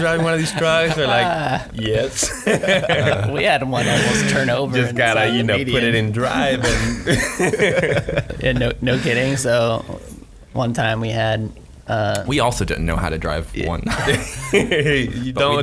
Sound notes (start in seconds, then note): 2.6 laughing; 6.2 laughing